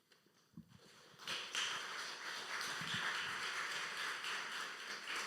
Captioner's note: audience applauding